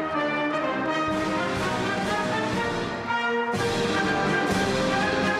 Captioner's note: applause